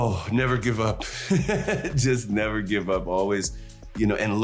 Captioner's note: chuckles